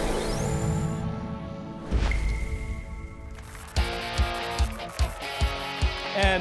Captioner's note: applause and cheers